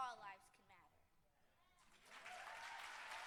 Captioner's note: applause